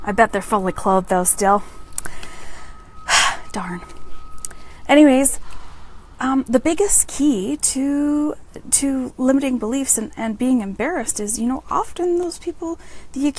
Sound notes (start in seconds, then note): 2.0 breathes out